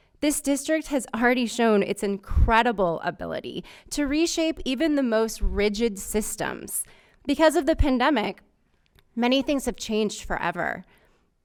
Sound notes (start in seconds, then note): none